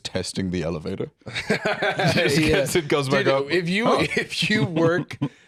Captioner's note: laughs